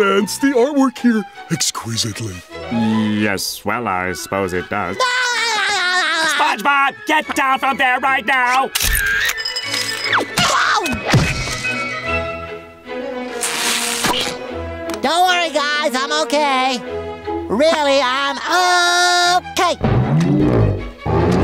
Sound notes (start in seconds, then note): 5.2 laughing; 10.4 screaming